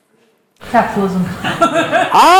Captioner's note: laughing